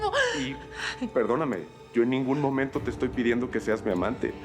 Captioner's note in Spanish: solloza